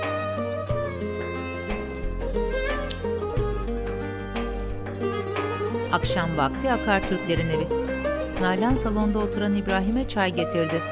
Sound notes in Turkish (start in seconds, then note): 0.0 Müzik - Duygusal; 2.5 Öpme sesi; 4.2 Müzik - Duygusal